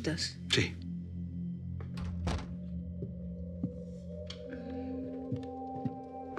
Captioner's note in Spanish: sonido al cerrar la puerta